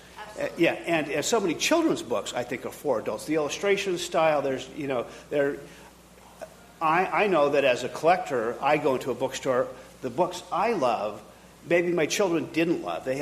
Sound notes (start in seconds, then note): none